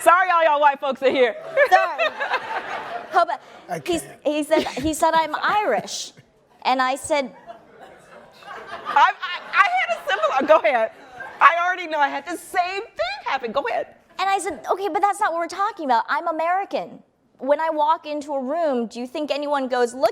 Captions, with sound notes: Sorry, all y'all white folks in here. - Sorry. - I can't. - He said, I'm Irish. And I said-- (laughing) - Go ahead. I already know, I had the same thing happen. Go ahead. - And I said, okay, but that's not what we're talking about. I'm American. When I walk into a room, do you think anyone goes,